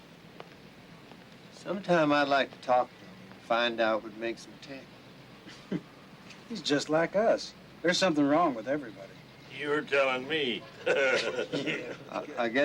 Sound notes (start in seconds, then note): 5.5 Artie chuckles; 10.8 men chuckles